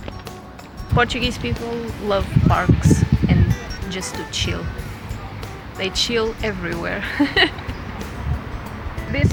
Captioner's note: laughs